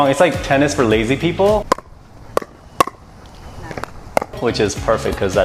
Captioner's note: tennis Sounds